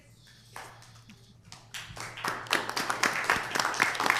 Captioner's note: audience applauding